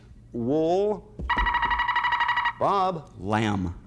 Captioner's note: buzzer sounds